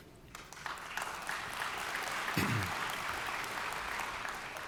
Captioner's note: audience applauds